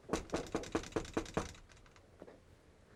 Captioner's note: knocks